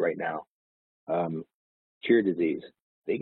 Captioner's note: audio distorts